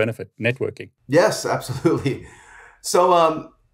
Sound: chuckles

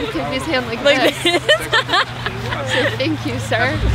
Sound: laughs

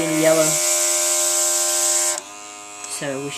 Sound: airbrush spraying

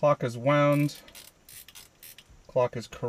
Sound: clock winding

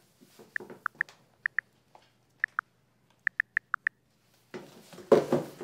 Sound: keyboard typing sounds

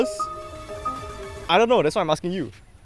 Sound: skydiving in the background

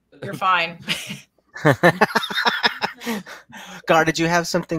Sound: laughs

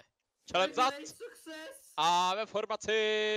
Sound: background yelling

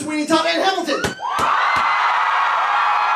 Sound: cheering; knocking

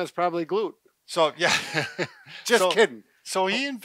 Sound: laughs

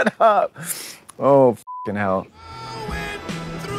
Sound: beep

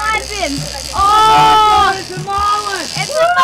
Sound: yelling

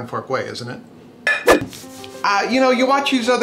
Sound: clanging; gentle music

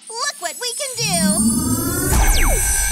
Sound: power whirs and whooshes

